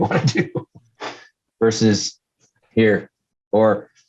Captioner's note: laughs